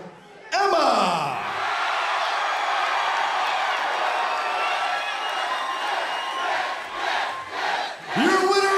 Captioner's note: crowd cheering